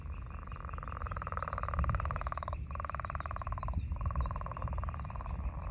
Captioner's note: leopard frog calling continues